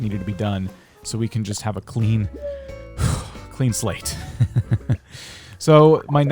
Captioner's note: laughs